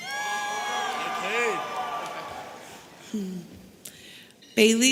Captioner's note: audience cheering